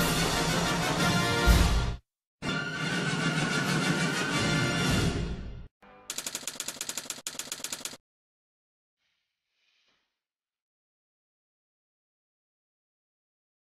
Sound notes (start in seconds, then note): 6.1 typewriter keys clicking; 10.3 silence